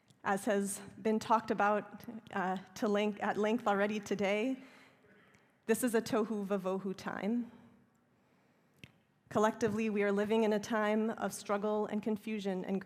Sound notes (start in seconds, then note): 6.9 hebrew